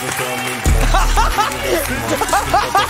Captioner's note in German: Gelächter